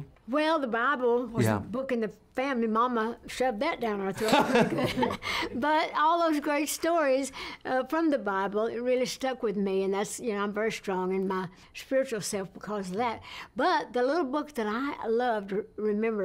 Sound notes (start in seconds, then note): 4.2 laughs